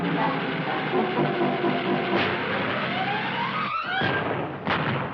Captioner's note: tense music; engine sputtering; car explodes